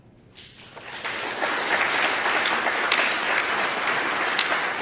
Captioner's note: applause